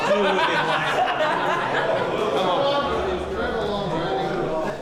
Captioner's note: laughter